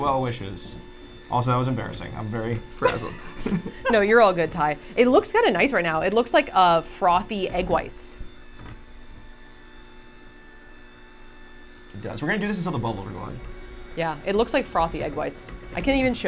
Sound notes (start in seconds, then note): 8.3 mixer whirring